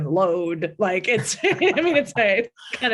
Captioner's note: both laughing